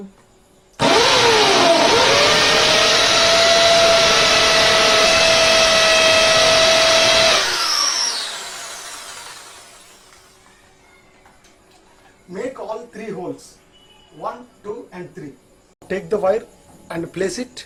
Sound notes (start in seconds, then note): 0.8 drilling Machine Sound